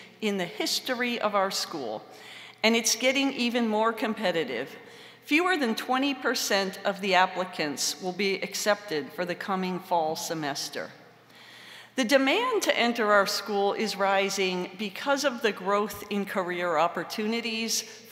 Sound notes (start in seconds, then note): none